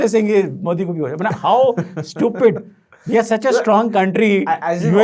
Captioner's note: laughing